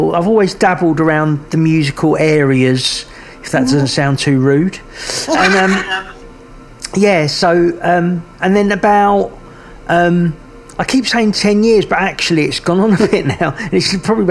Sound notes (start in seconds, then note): 5.2 laughing; 12.9 chuckles